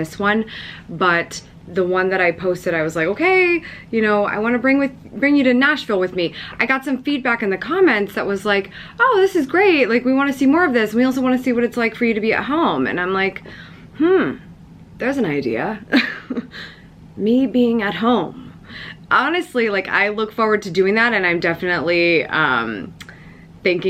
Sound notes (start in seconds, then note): 16.4 laughs